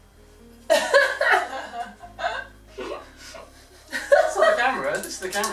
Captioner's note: laughs